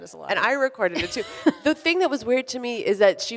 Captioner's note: laughs